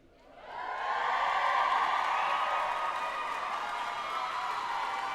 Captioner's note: all cheering and applauding